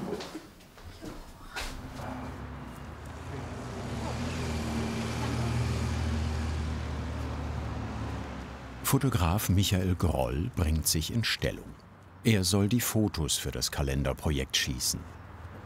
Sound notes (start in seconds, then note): 0.1 she laughs gently; 3.1 distant traffic noise